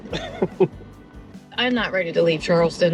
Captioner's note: chuckling